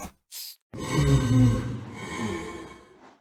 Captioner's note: heavy breathing